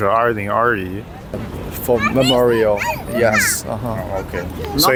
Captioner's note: chinese